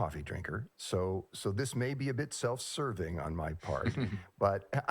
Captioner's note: laughs